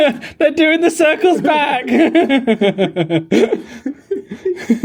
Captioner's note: laughing